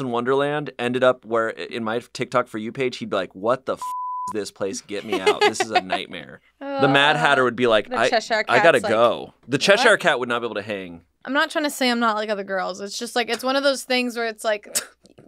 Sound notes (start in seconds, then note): 3.8 beep